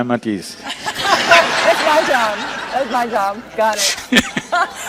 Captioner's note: laughter